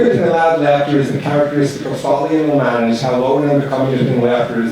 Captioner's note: distorted microphone